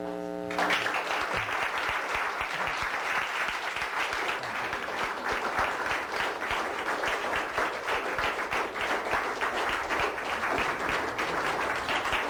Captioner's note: applause